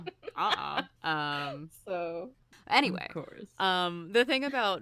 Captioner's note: laughs